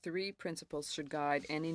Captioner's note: speaking French